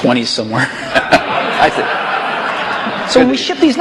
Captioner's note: laughter